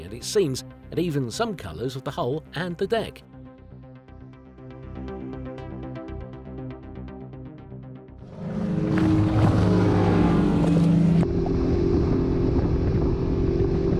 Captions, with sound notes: and it seems that even some colors with the hull and the deck. (boat engine roaring)